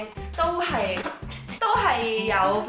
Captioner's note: laughs